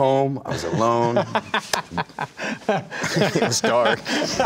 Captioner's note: laughing